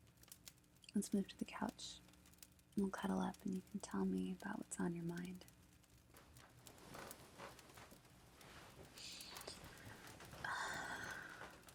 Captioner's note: couch give